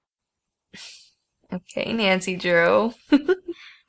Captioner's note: laughing